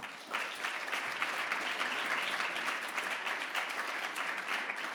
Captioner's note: audience applause